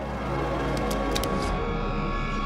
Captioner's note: gun clicking